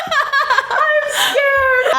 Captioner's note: laughs